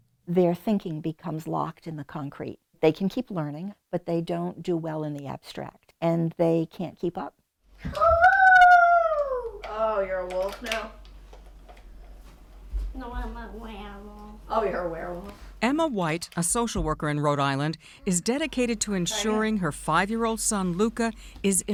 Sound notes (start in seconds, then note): 7.9 child howling